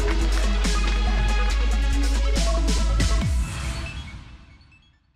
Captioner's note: cheers and applause